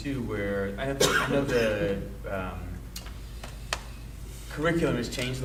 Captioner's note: coughing drowns out speaker